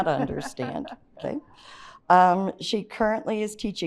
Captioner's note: chuckles